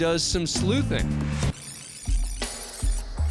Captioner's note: rewind whirring